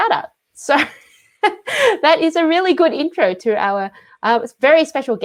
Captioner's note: laughs